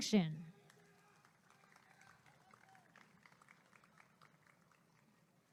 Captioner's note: applause and cheering